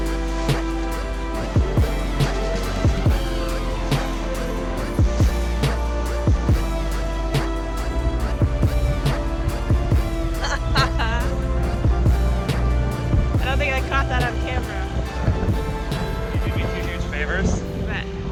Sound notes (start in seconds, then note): 10.7 laughing